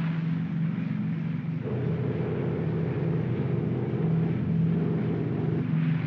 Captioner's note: aircraft rumbles